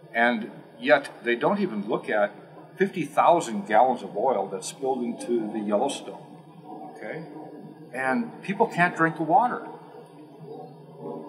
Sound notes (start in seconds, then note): none